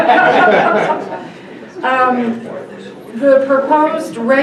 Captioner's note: laughter